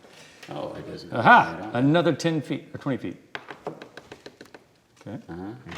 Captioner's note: gentle rustling